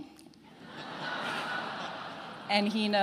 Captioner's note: attendees laughing